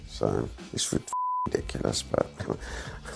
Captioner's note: chuckles